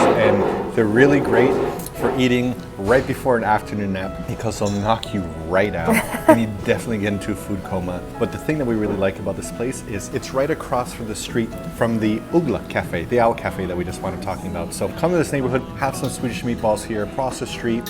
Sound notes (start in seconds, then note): 5.8 laughs